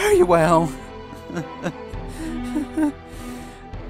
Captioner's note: laughing & Sobbing